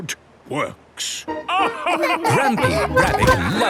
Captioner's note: all laugh